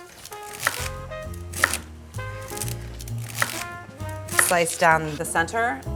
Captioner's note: gentle music; knife chopping